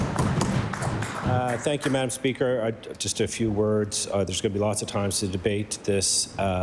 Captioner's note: applause